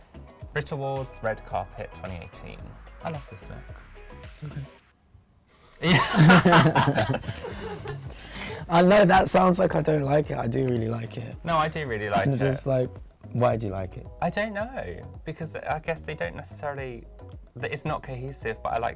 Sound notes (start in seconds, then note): 0.0 upbeat music; 5.8 everyone laughs